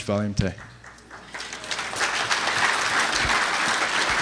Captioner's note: applause